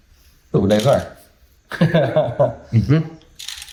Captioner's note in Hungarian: Laughter